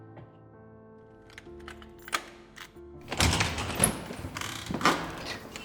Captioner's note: door opening and closing